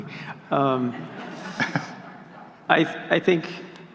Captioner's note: laughing